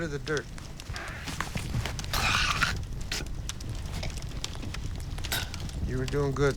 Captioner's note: spitting